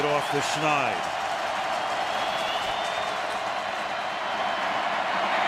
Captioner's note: crowd cheering